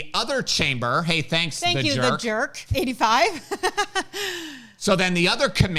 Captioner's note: laughs